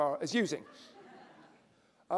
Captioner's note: laughter